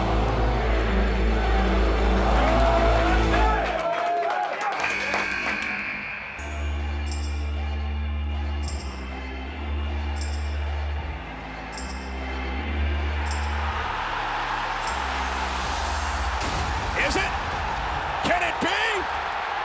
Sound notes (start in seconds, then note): 0.0 dramatic music; 3.2 buzzer ringing; 3.2 clapping; 7.1 gentle music